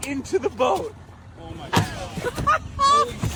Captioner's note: laughs